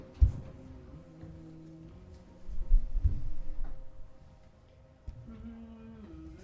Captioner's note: GRAVEDIGGER hums